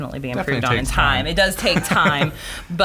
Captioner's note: laughs